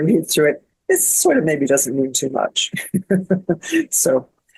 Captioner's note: laughs